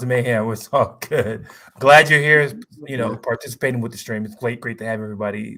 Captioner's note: laughs